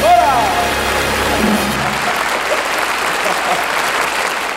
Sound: audience applauding

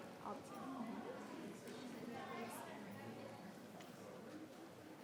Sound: people chattering

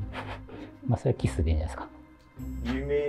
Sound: laughing; kiss

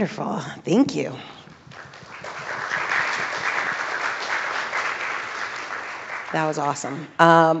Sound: applause

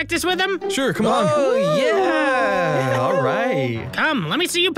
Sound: cheers

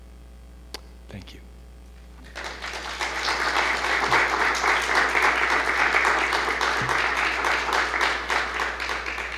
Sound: clapping

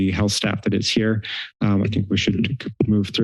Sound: inhales

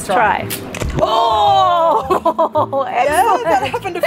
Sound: laughter

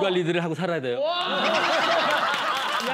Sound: laughing

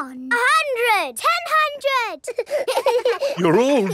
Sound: children laughing

